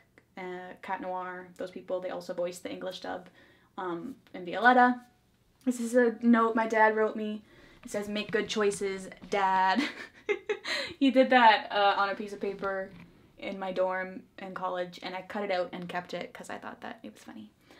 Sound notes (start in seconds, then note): 9.8 laughs